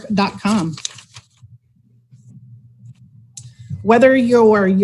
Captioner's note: pages flipping